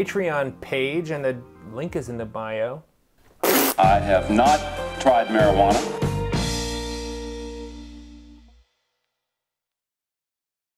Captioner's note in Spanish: pffft